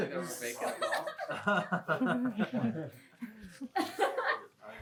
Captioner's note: laughter